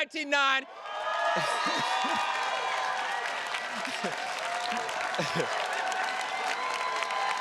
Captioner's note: attendees cheers and claps; chuckles